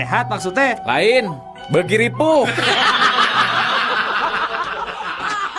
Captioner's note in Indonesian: tertawa